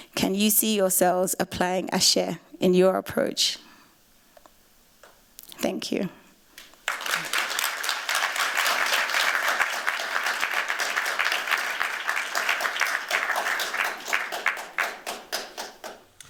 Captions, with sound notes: Can you see yourselves applying Ase in your approach? Thank you. [APPLAUSE]